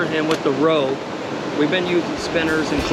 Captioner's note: water rushing